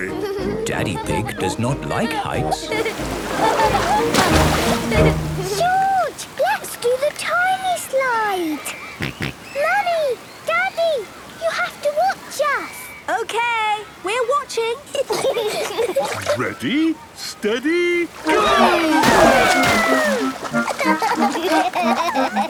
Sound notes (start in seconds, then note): 2.4 laughing; 8.7 George snorts; 14.9 giggling; 20.3 giggling